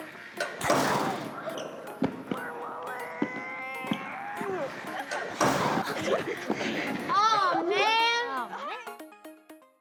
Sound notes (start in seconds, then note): 0.0 machine clacks; 2.4 kids grunting; 6.4 kids laughing